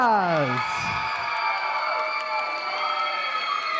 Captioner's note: applause